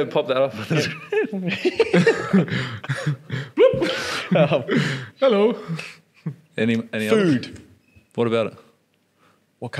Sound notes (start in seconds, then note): 0.6 laughing